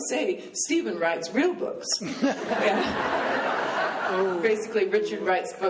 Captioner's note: laughing